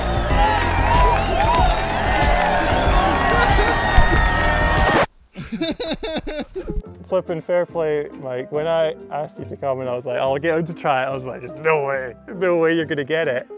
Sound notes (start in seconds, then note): 0.0 cheering; 5.3 men laughing